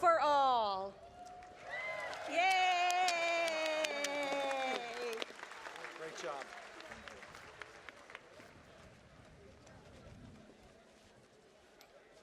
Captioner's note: cheers